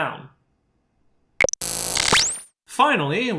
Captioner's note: static